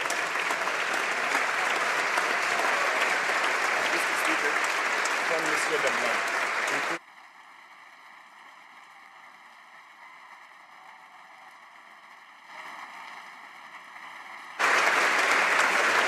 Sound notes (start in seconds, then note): 4.1 applause